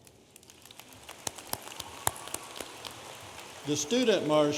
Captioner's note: audience applauding